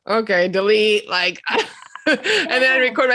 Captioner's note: laughing